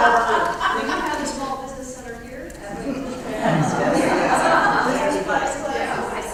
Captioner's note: laugh